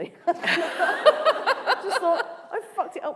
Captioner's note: laughter